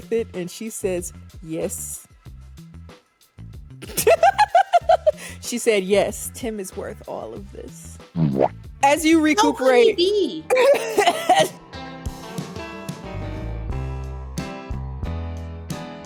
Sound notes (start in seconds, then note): 3.8 laughs; 10.5 laughs; 12.1 upbeat music